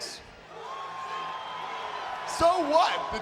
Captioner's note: audience cheering